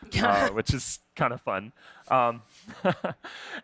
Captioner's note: laughter